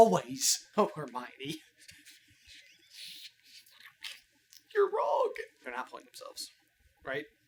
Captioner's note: laughs derisively